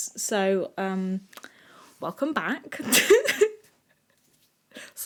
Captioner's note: giggle